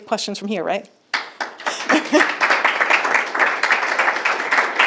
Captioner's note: group clapping